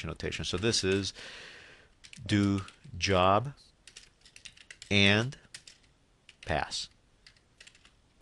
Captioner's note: typing